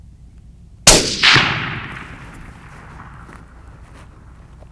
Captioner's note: gunshot